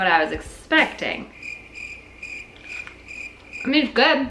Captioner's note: crickets chirping